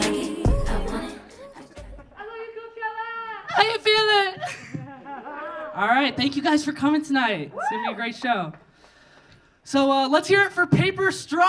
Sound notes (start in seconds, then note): 4.4 audience laughing; 7.5 audience cheering